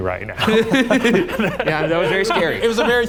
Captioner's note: chuckles